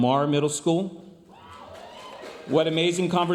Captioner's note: audience applauding